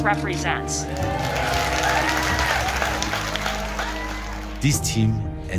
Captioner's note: crowd cheering